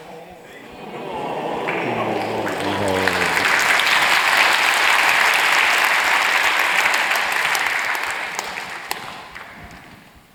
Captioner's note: applause